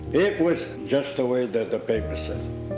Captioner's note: none